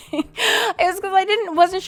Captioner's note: laughs